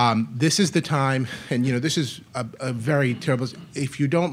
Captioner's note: murmurs